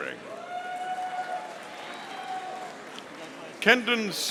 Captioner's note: audience applauding